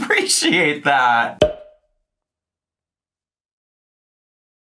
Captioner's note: air pops